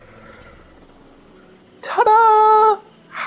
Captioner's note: higher pitched